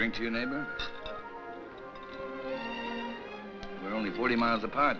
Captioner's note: glasses clink